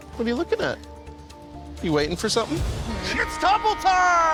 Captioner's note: horn blares